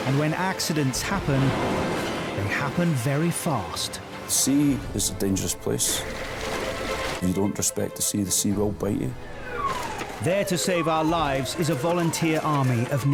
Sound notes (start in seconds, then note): 6.1 intense music; 6.1 water trickles; 9.1 siren wailing